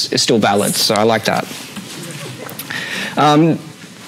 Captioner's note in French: rires